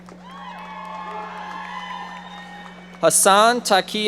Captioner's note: audience applauding